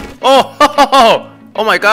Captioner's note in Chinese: 笑聲